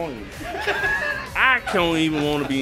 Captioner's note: laughter